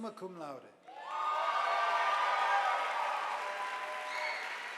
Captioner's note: audience applauding